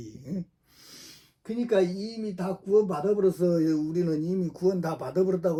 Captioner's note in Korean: 콧방귀